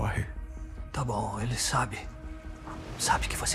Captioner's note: whispering